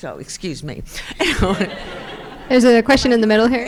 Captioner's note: crowd laughing